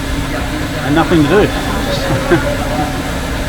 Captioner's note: laughing